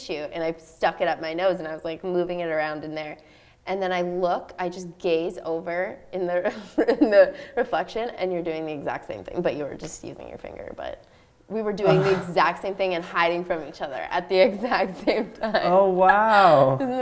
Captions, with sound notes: stuck it up my nose and I was like, moving it around in there and then I look, I just gaze over [Laughing] in the reflection and you're doing the exact same thing but you were just using your finger, but we were doing the exact same thing and hiding from each other at the exact same time Oh, wow!